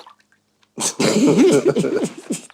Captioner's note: haha